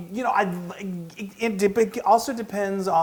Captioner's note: laugh